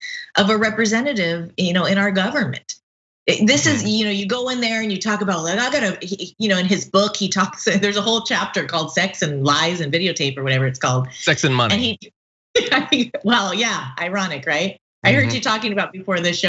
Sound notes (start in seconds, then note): 11.2 laugh